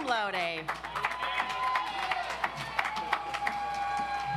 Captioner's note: audience applauds